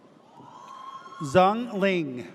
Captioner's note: audience cheers